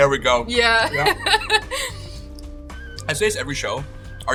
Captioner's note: chuckling